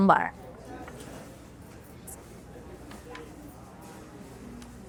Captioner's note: patrons chatter